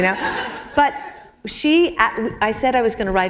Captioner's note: laughter